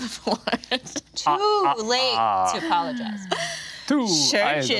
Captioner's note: Nox laughing